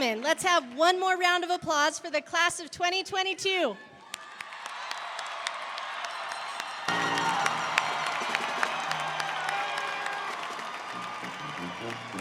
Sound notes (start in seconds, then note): 4.0 audience cheering; 4.1 audience applauding